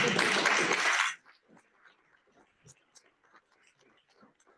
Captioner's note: applause